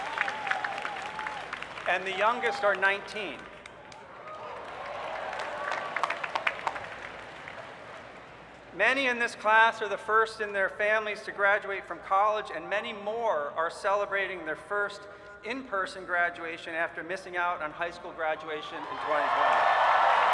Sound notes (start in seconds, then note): 0.0 cheering; 4.2 scattered clapping